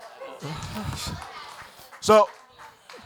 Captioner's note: audience applauding